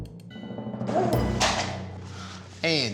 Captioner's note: bowl drops